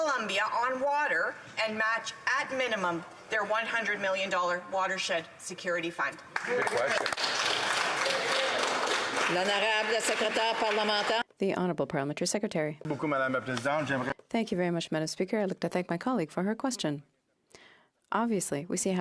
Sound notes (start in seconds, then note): 10.9 applause; 12.8 speaking in French